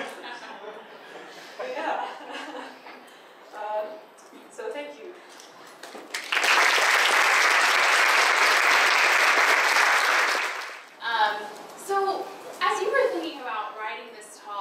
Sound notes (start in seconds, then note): 3.2 laughs; 6.0 audience applaud